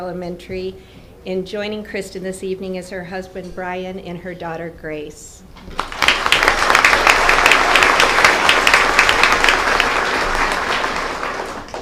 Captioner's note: applause